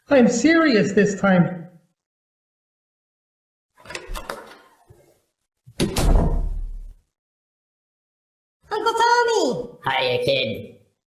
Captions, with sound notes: - I'm serious this time! (door clicks open) (door slams) - Uncle Tommy! - Hiya, kid.